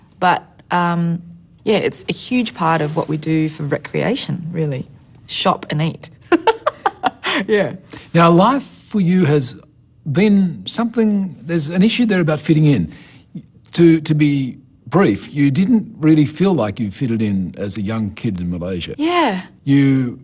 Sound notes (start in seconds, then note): 6.4 laughs